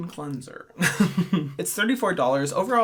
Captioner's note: laughing